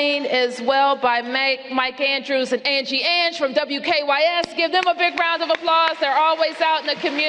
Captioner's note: applause